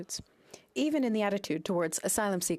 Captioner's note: speaking French